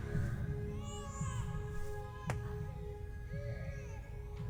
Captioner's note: baby cries